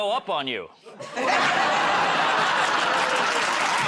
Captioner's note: laughter